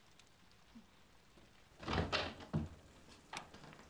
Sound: door opens

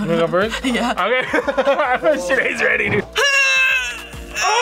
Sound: laughs; grunts

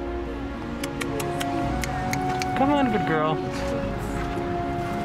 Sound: tongue clicks; snaps

